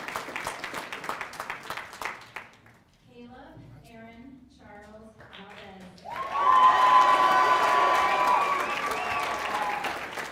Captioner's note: cheers and applause